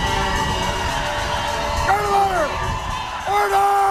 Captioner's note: cheering